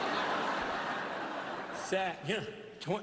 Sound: laughter

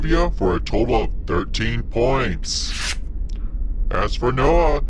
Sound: cards whooshing

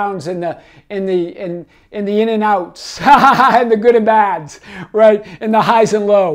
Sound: laughs

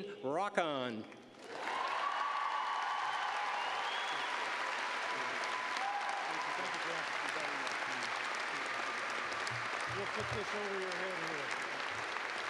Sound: cheers and applause

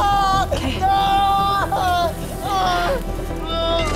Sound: screaming

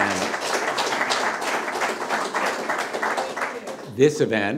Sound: audience applause

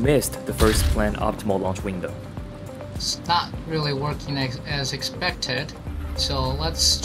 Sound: on the radio

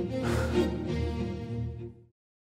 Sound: sighs

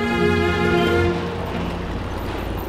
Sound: traffic sound

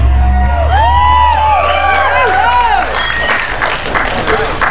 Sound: crowd cheers

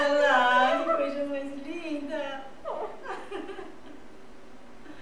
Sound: laughter

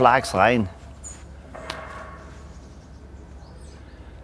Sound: tinny noise, birdsong

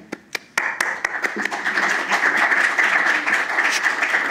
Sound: applause

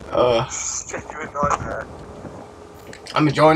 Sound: sighs

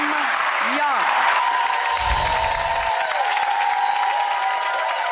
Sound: audience cheering

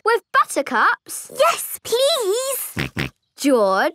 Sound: snorting

